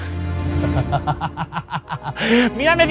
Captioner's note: laughs in dissociation